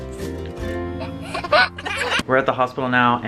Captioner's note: child laughs